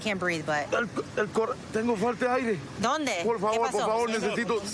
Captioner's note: speaking spanish